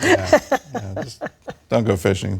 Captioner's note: laughter